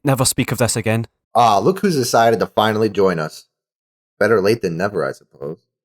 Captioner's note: under breath